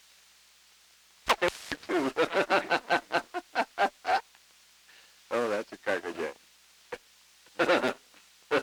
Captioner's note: laughter